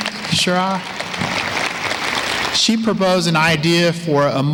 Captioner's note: applause